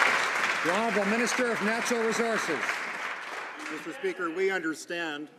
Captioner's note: some Applause